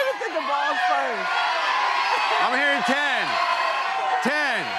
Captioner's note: audience shouting numbers